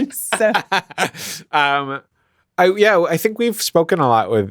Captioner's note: laughs